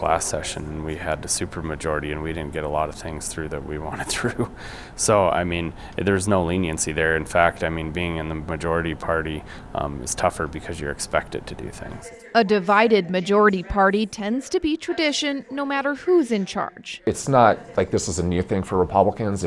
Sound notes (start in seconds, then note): 3.9 chuckles